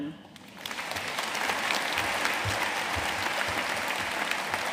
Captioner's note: audience applauding